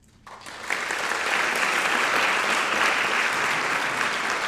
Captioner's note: speaking in foreign language; audience clapping